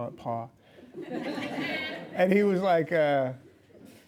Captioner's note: laughing